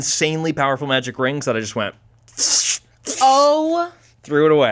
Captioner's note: imitates paper shredding